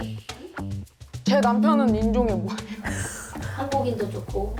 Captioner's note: curious voice